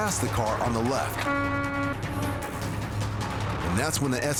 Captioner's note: horn honking